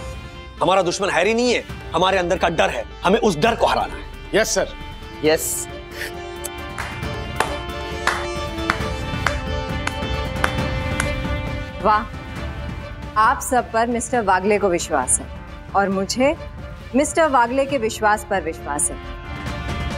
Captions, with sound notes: Our enemy is not Harry, it is our own fear! - We have to defeat that fear! - Yes, sir! Yes! [clapping] Wow! Mr. Wagle trusts all of you. And I, trust Mr. Wagle.